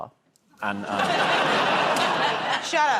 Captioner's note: laughter